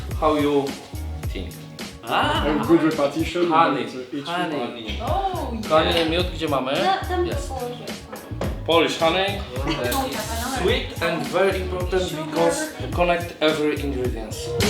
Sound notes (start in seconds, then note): 5.7 something in Polish